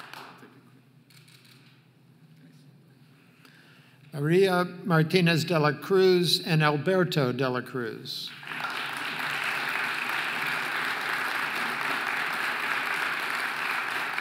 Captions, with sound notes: María Martinez de la Cruz and Alberto de la Cruz (audience applauding)